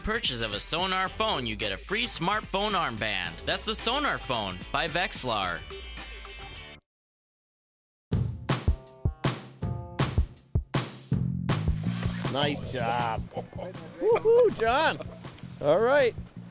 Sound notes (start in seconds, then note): 8.2 drag slipping